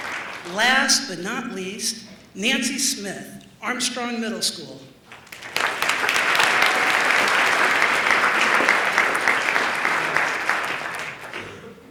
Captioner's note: applause